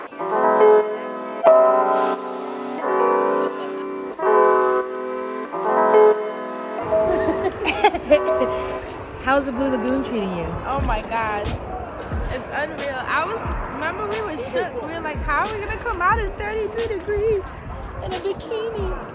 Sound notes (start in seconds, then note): 0.2 calm music; 6.9 both laughing